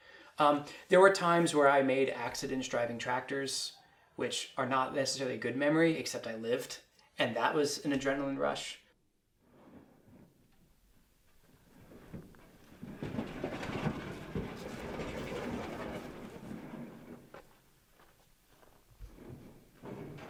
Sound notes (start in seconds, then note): 8.9 sounds of truck-bed rattling, footsteps crunching in the grass